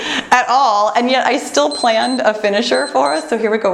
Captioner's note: timer beeps